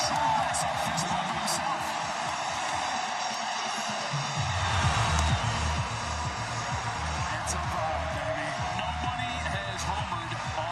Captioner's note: cheering